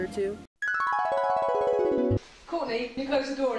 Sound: descending pitches

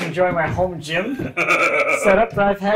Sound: laughing

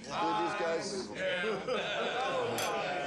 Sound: laughter

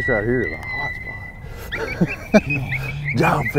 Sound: chuckles

